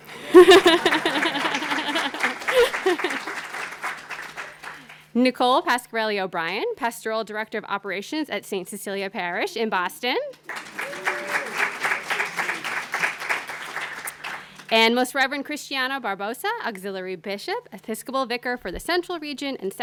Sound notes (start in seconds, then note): 0.0 applause; 10.4 applause